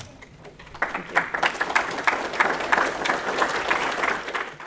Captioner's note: audience applause